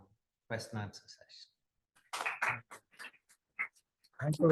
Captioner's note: applause